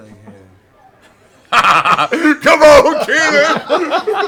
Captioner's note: laughs